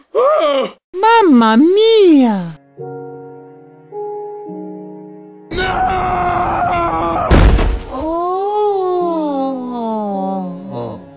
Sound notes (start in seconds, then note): 0.0 labored breathing; 7.2 thud; 8.0 moan